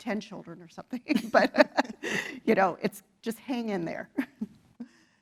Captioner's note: laugh